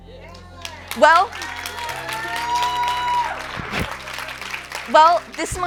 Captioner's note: cheers and applause